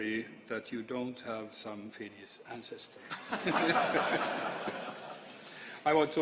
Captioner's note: laughter